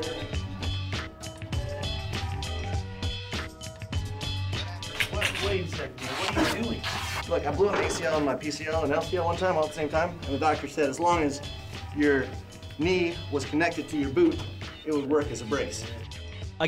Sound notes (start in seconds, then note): none